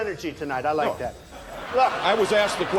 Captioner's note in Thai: หัวเราะ